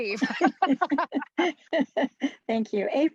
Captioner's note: laughing